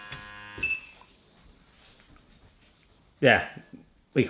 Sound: beep

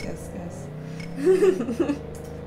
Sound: laughter

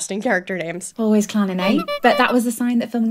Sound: clown horn

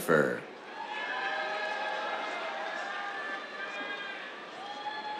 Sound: cheers, applause

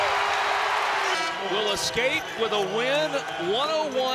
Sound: cheering; buzzer

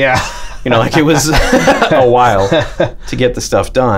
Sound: laughter

